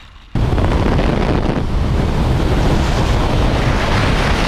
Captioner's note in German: Windrauschen